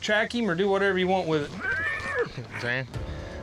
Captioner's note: horse neighs